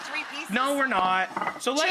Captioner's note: audience laughs